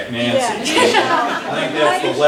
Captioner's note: laughter